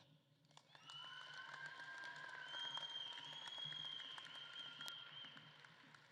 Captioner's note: audience claps and cheers